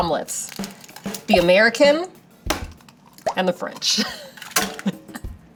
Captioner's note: egg cracks; laughs